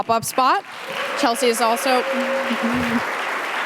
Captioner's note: audience applauding